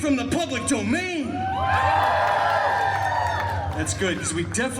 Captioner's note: guests cheering and applauding